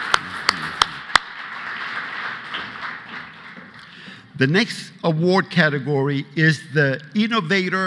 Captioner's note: applause